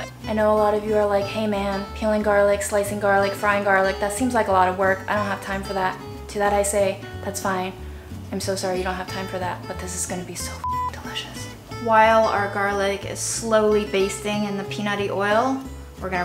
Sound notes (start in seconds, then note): 10.6 beeps